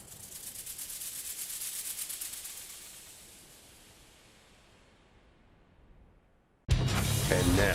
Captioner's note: rattling